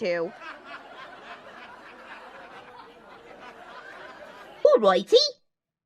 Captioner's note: audience laughter